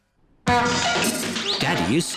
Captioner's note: crashing